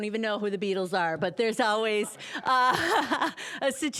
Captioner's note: all laughing